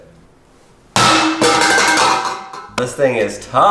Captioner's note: metallic clanking